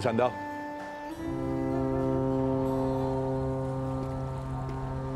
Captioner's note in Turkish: Vapur düdüğü çalıyor